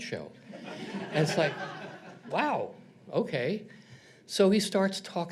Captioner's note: audience laughs